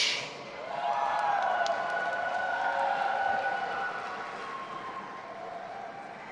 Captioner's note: audience applauding and cheering